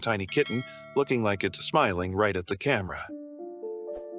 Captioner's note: bell rings